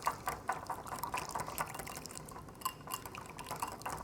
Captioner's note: whisk clinks